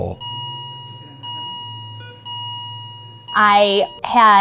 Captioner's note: monitor beeping